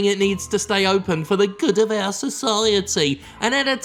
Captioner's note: mocking tone